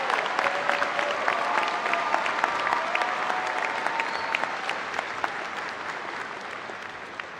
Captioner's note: applause